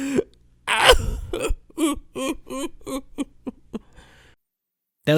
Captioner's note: crying